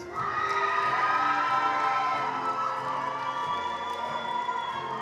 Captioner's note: attendees cheering and applauding